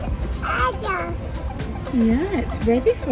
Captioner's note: baby babbling